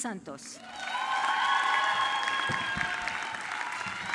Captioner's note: audience clapping